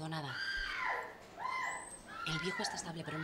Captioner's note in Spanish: LA MUJER GRlTA